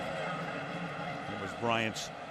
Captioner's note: pa announcement